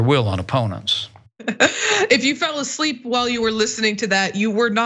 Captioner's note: laugh